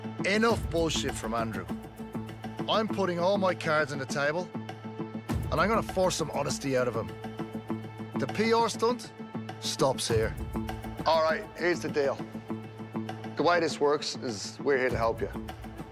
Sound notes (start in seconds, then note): none